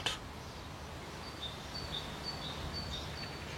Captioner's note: birds chirping